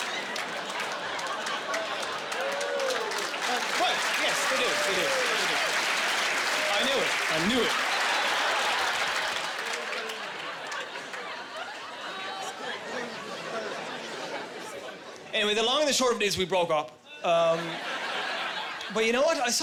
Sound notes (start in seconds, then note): 5.2 applause; 9.6 people chattering and laughing